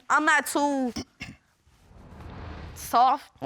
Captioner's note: clears throat